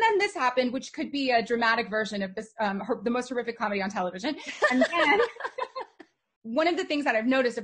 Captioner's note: they laugh